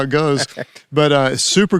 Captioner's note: laughs